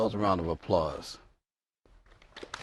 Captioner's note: applause